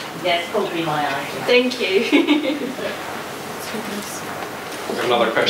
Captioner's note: laughs